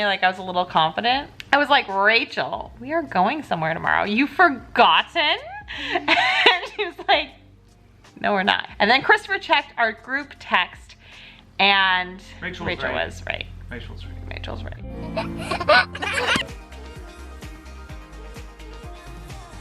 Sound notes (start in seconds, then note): 15.0 baby chuckling; 16.8 upbeat music